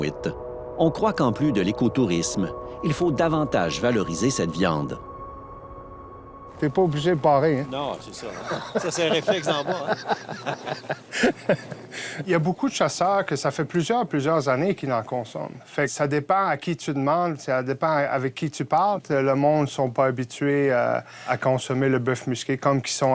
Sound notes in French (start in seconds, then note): 10.8 rires